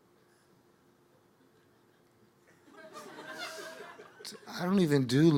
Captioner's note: audience laughing